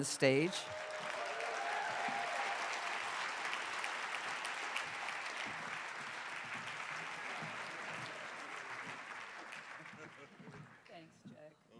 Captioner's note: cheers and applause